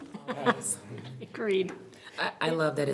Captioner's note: everyone laughs